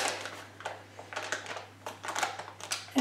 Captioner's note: packaging resists